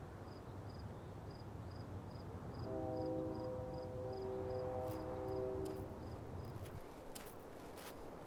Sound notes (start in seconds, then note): 2.6 distant train horn blares